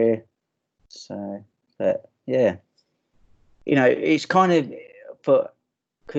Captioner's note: stammering